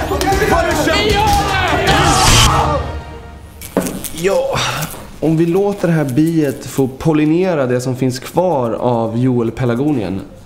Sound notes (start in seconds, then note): 1.2 clap; 2.2 zap